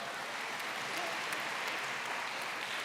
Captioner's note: applause